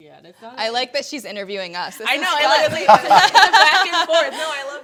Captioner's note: panelists laughing